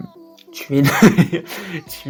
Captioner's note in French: haha